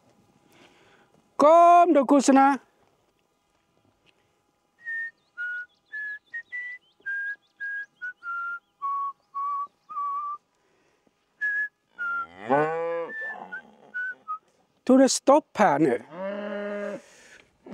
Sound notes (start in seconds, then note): 4.8 whistles